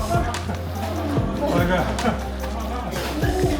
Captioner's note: crowd chattering